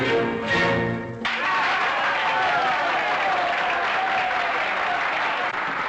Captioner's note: applause and cheers